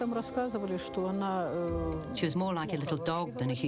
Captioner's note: woman speaking in russian